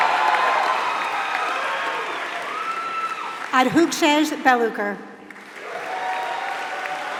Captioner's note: applause